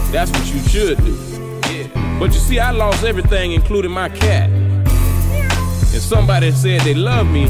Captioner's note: meow